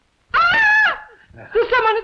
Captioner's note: screams